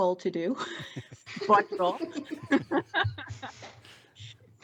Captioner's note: laughter